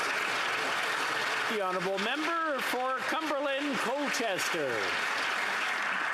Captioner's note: applause